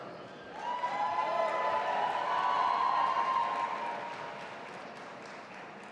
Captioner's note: audience applauding and cheering